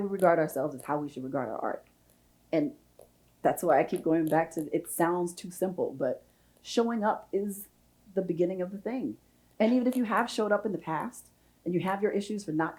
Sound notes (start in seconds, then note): none